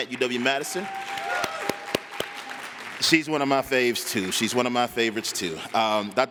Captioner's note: applause